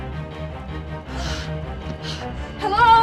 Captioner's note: jogger panting